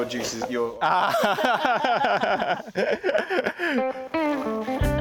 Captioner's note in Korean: 웃음